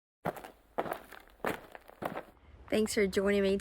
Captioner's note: footsteps clicking